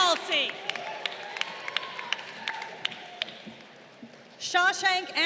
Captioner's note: crowd cheering